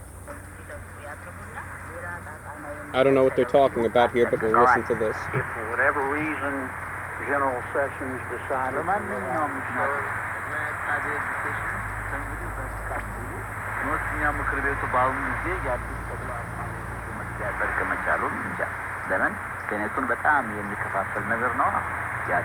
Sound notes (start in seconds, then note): 6.4 from radio speakers; 8.6 continued from radio; 11.9 garbled static; 14.1 continued from radio; 16.1 static; 17.8 foreign language